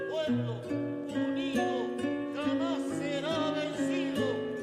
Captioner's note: non-english speech